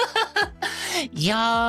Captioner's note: laughing